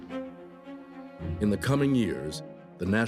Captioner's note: none